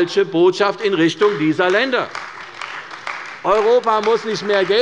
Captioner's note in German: Beifall bei der CDU